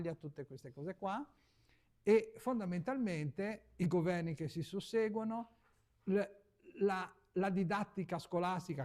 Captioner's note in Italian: schiarire la voce